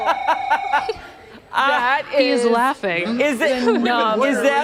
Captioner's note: laughter